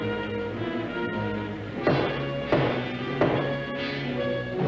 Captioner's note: banging on door